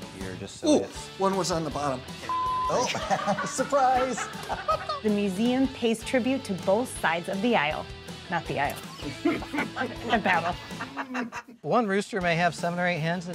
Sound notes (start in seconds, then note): 2.2 beep; 2.7 people laughing; 8.9 people laughing